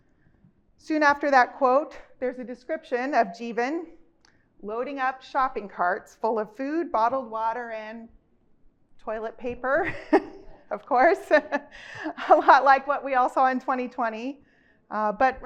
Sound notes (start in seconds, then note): 9.8 chuckles